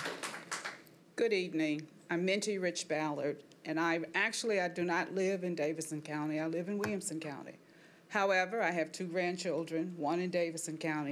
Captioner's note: applause